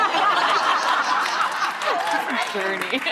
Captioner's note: audience laughing